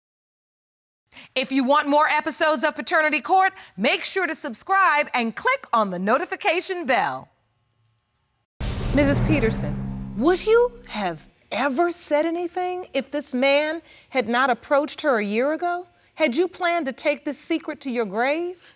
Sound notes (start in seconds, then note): none